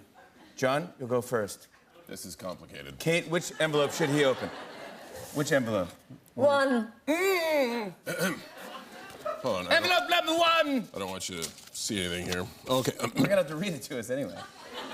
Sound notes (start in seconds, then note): 8.0 clears throat